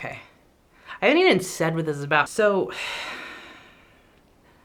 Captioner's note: sighs